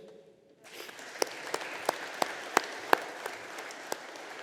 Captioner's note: audience applauding